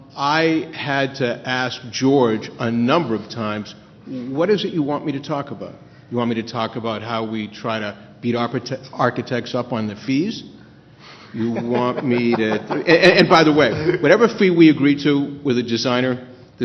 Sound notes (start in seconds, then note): 11.3 laughter